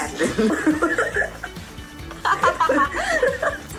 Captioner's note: all laugh